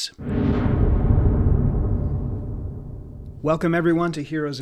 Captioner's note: ominous echo